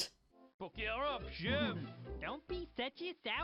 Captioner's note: thick French accent